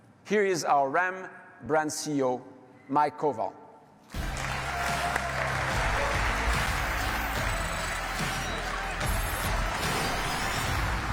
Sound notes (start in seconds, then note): 4.1 audience applauding; 4.2 bright music